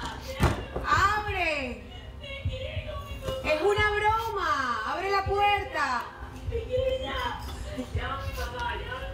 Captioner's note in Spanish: Portazo; Toques en la puerta